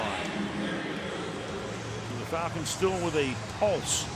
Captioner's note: pa announcement